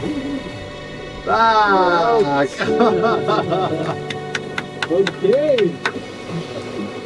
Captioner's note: clapping